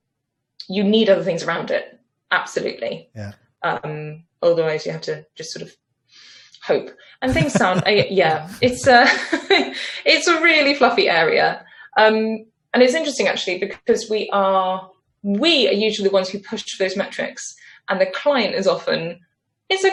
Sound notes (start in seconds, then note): 7.2 laughs